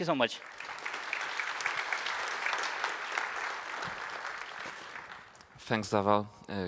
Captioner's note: applause